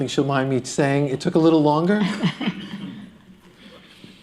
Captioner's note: chuckles